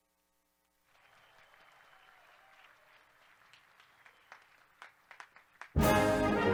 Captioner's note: graduates clapping; graduates cheering; bright instrumental music